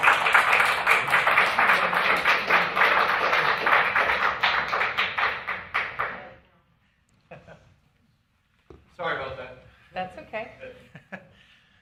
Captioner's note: applause